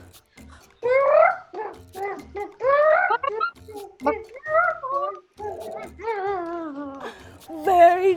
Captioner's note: melodic squawking